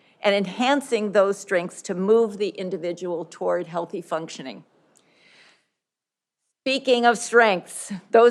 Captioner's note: none